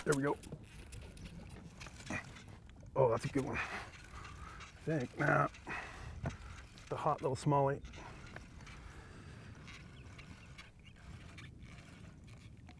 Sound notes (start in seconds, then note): 4.6 reel cranking